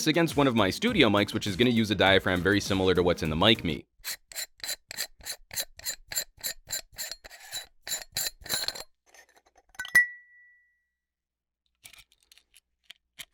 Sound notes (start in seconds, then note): 4.0 metal threads scraping